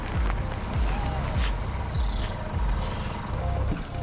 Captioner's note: crunching gravel; trucks approaching; men's voices shouting; truck doors closing